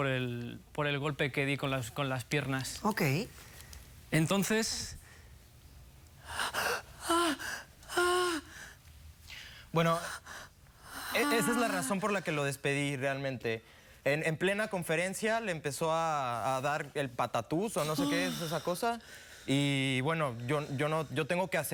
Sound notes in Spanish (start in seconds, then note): 7.0 gemidos